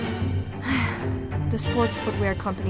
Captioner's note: sighing